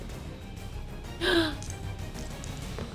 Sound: gasps

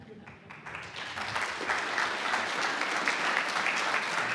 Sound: audience applauds

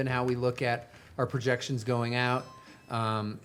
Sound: doorbell chimes

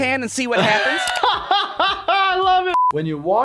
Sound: laughing

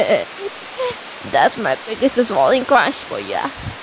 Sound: laughing

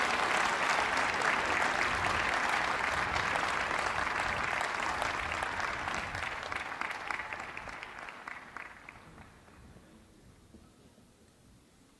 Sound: cheers and applause

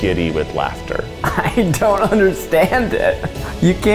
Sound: laughing

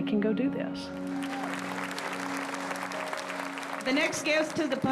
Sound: crowd applauding

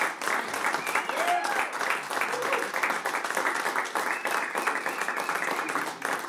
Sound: applause

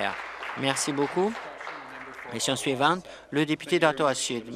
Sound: applause

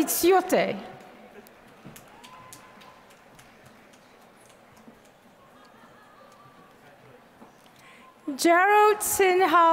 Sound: applause

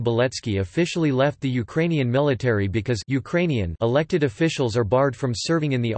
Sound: Ukrainian

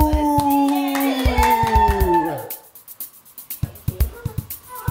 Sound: applause; funky music

